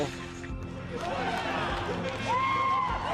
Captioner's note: cheering